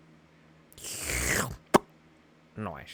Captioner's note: slurping noise